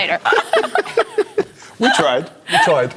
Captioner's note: laughter